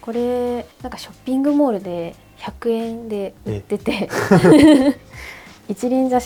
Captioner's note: laughs